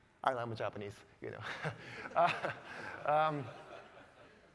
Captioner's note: all laughing